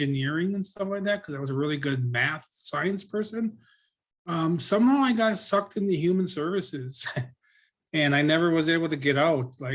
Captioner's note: chuckle